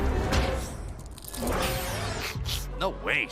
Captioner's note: crunch! crunch!; sniff sniff